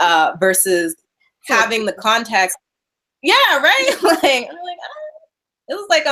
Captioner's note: laughing